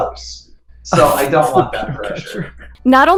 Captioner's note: laughs